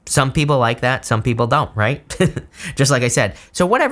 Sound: chuckling

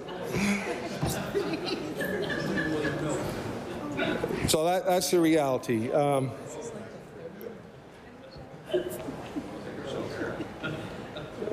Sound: laughter

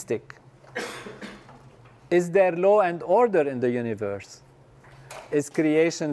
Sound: cough

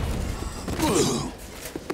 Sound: grunting

